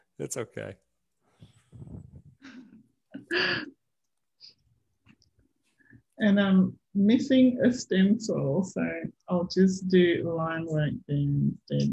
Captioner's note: chuckles